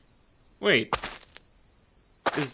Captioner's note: walking on gravel